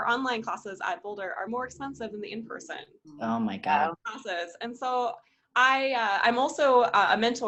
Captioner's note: various exclaims of dismay